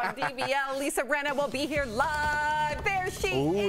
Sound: laughter

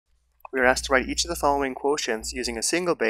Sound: voiceover

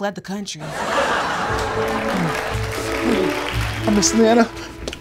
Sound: audience laughs

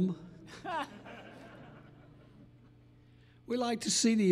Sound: audience laughing

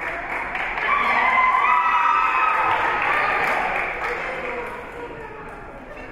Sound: spectators cheering and applauding

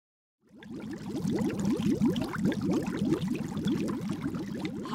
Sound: sound of bubbles popping

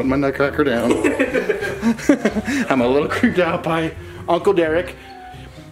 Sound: laughing

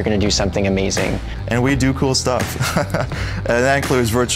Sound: laughing

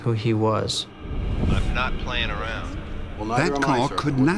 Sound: on phone

